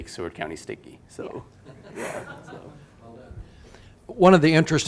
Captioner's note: audience laughing